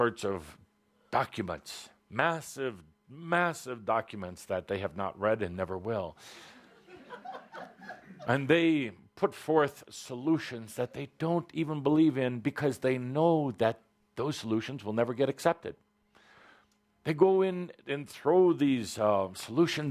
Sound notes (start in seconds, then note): 6.5 laughter